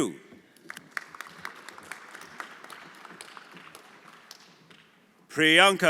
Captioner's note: everyone applauding